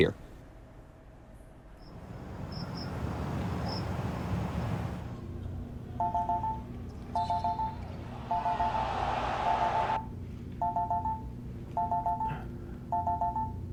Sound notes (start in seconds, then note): 1.8 crickets chirping; 6.0 phone chiming; 8.4 TV roaring; 10.7 phone chiming